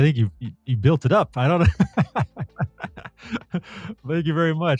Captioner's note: laughs